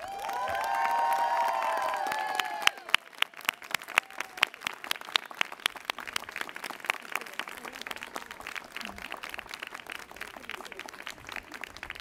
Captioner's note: applause